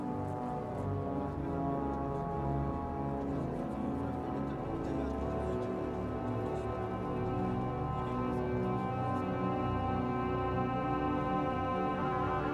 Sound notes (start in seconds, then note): 3.6 horn Blowing, Growing Louder